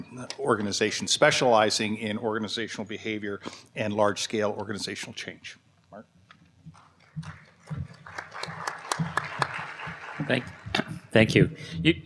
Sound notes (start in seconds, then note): 6.8 applause